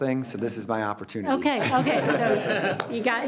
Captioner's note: group laughs